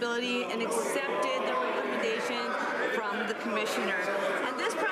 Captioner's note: some Applause